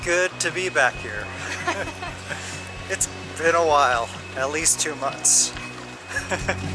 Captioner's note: laughter